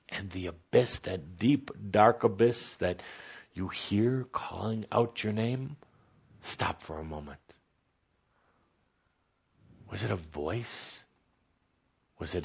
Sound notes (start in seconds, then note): none